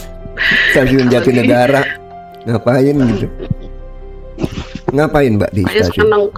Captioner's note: berdehem